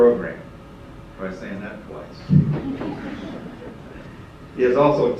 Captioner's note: laughter